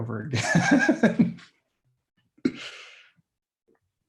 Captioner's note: chuckling